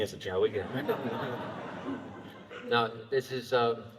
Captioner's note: laughter